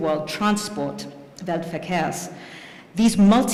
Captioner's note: non-english speech